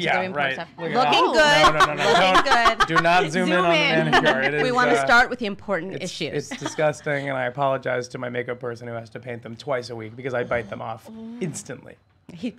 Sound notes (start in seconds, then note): 1.2 laughing